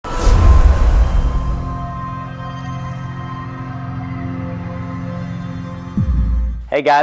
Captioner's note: sound effect